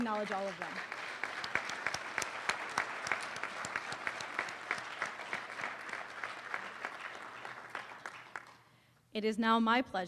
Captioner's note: applause